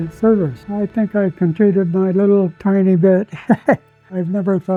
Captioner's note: laughs